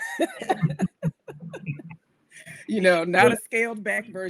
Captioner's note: laughs